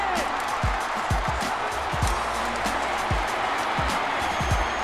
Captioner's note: cheering